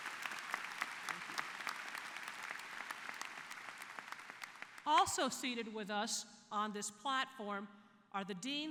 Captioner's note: applause